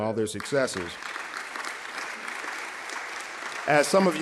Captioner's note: audience applauding